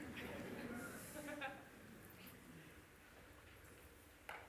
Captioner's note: risadas